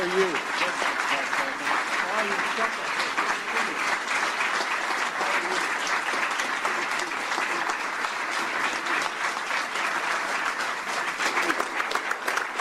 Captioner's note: applause